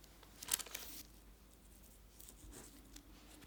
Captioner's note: paper rustles